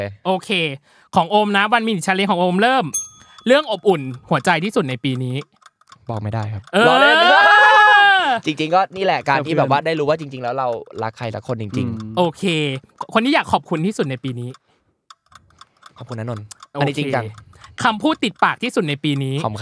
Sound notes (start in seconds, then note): 6.7 laughing